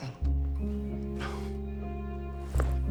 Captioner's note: Oscar chuckles